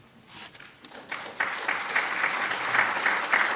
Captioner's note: applause